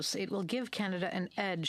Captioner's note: speaking French